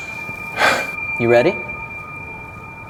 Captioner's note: Jim sighs